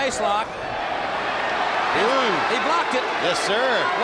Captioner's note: audience cheers